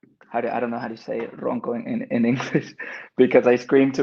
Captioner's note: speaks Spanish